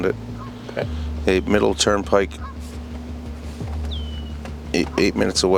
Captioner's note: birds calling